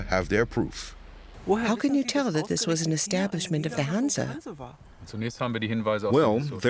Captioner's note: in German